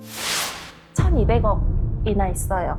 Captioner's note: Confession sound effect